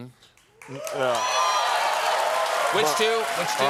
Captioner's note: applause